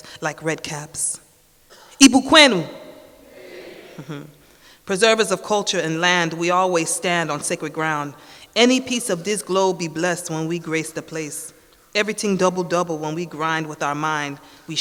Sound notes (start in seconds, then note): 2.0 speaks foreign language; 3.3 audience speaks foreign language